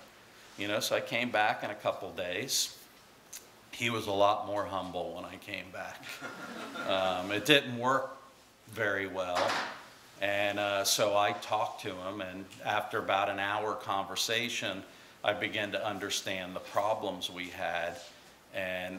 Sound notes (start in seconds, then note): 6.0 laughter